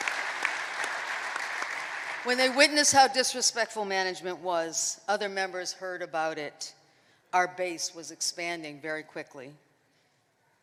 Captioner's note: applause